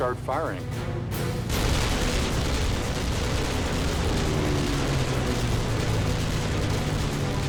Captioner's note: gunfire